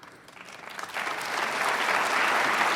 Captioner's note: applause